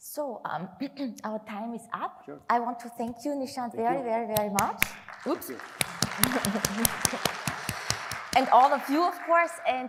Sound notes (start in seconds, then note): 4.9 audience applauds